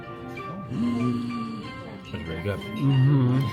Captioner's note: gasps